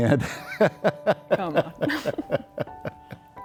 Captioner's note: they laugh